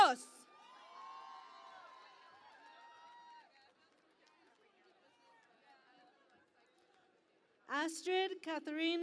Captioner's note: cheering and Applause